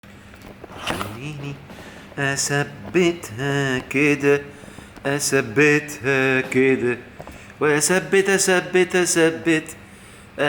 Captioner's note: chanting!